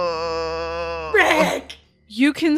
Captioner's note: groans